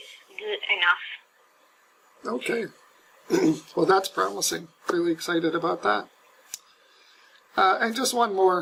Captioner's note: cough